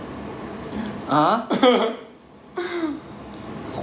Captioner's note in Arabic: يضحك